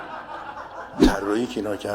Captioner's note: laughter